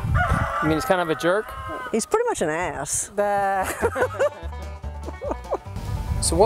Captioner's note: both laugh